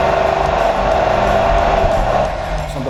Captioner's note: truck Engine